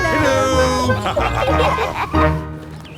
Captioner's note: laughter